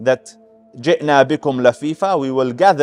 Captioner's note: Arabic